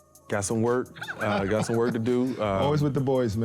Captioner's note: laughing